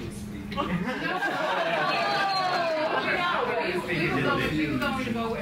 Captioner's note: members laugh